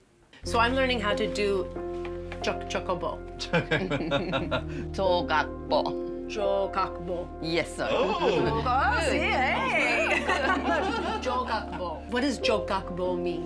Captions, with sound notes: -So I'm learning how to do jogakbo. -[ Laughs ] -Ooh! -See? Hey! Jogakbo. What does jogakbo mean?